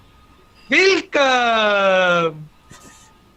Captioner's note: German